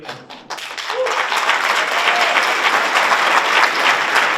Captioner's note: audience applauds